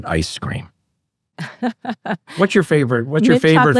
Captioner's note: laughs